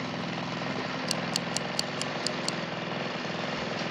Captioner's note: clicking